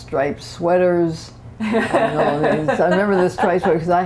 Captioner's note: laughter